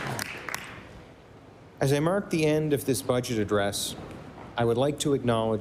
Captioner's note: applause